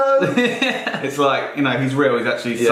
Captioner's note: laughing